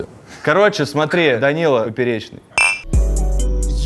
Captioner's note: glasses clink; title theme